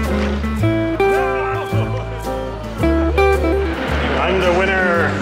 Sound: exclaim

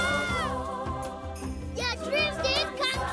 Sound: laughing

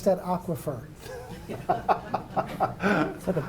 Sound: laughing

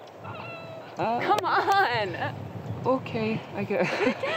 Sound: groaning

